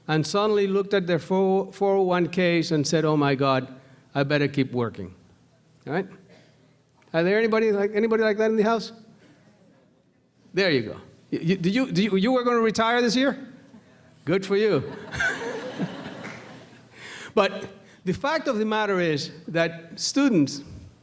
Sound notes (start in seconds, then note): 14.8 laughter